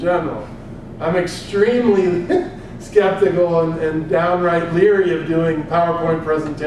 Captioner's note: laugh